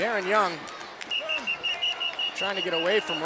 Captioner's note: whistle blowing